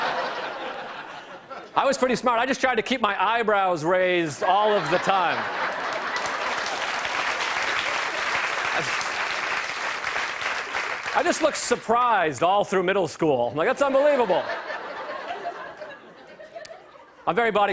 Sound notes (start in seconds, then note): 0.0 laughter; 4.4 laughter; 7.8 applause; 13.8 laughter